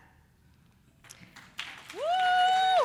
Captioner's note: audience applauding